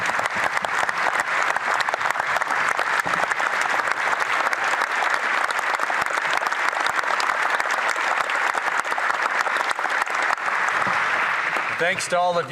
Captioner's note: applause